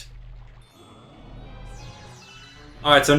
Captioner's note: gaming sounds; instrumental music